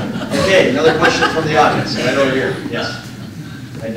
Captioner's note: laughter